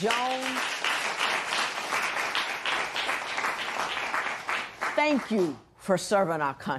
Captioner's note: applause